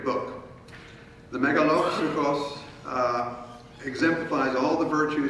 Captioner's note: speaking in foreign language